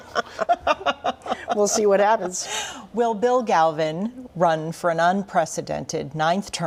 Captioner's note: laughter